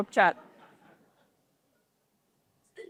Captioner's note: laughter